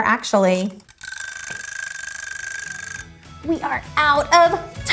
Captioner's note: timer dinging